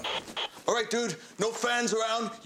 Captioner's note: radio crackles